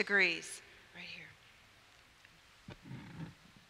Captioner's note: whispers